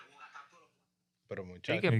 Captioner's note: speaking In Foreign Language